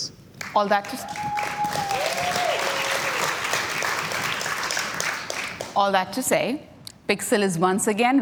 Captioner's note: cheers and Applause